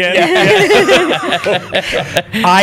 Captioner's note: laughter